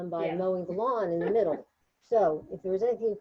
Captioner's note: person laughing